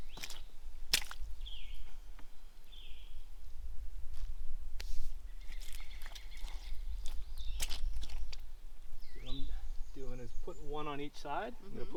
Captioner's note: birds chirping